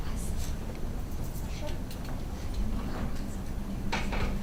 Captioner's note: attorneys chatter